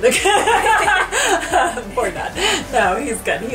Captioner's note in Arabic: الكل يضحك